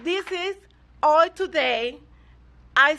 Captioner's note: applause